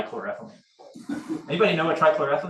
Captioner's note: audience laughs